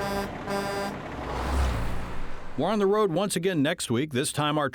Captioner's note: truck horn